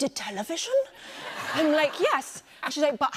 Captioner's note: laughter